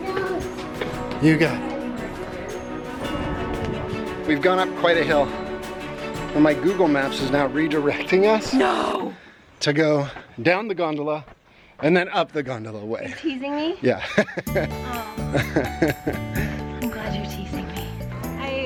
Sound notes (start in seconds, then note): 15.2 laughs; 18.4 happy music